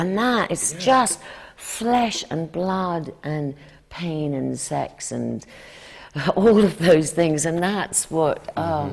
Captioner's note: laughs